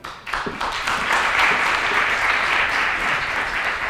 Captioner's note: applause